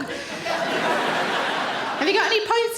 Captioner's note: audience laughing